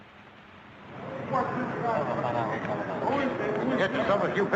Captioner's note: crowd chattering